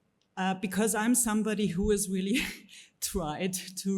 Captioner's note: chuckles